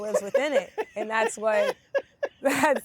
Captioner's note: laughs